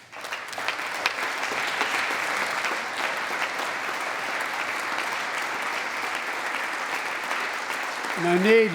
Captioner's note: applause